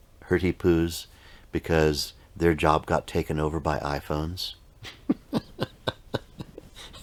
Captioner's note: laughing